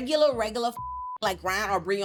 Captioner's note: beep